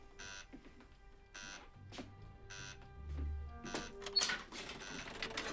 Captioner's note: alarm buzzing